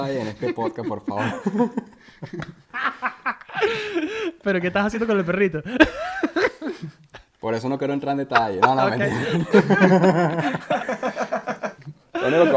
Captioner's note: laughs